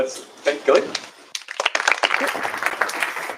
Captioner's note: applause